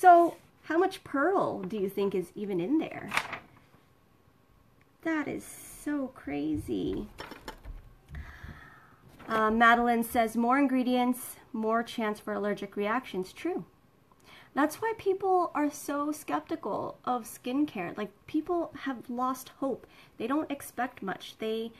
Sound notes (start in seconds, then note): 3.0 paper rustling; 7.1 clattering